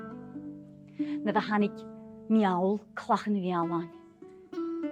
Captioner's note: storytelling in Gaelic